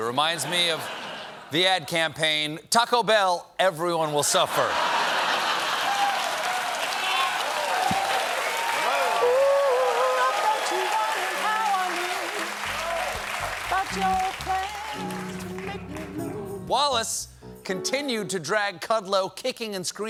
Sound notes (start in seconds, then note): 4.4 laughter; 4.9 cheers and applause